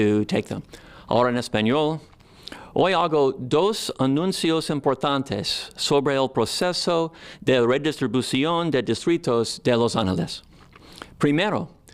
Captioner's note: in Spanish